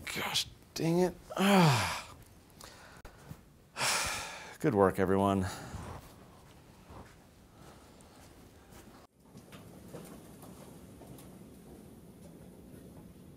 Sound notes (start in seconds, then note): 1.3 groans; 3.7 sighs